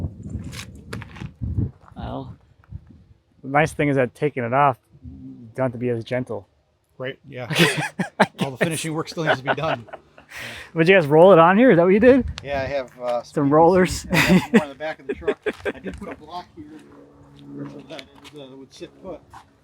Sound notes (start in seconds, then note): 7.5 laughs; 15.5 laughs